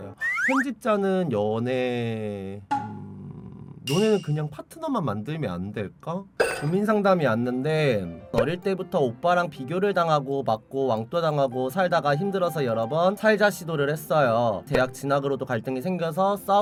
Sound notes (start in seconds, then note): 3.0 hmm